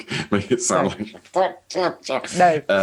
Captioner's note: grumbles